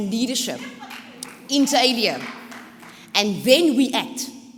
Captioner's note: audience cheering